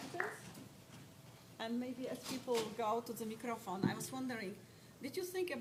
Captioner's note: applause